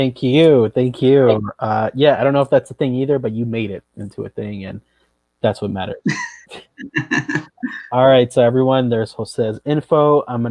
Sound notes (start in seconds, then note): 6.0 laughs